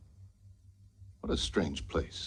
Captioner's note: none